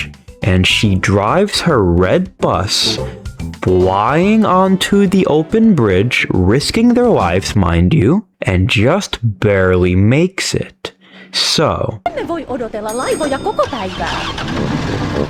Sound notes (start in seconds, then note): 11.0 inhales Oxygen